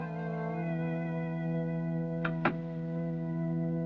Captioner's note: door Closes